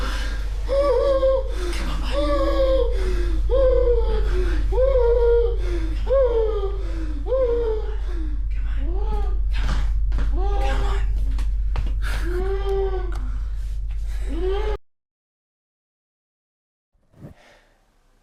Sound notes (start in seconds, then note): 2.8 Keith gasping; 12.0 Keith hyperventilating